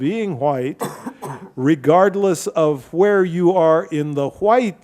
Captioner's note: audience member coughs